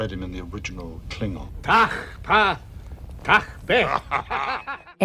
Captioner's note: laughter